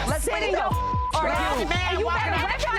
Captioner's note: beep; people chattering